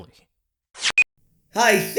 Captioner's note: beep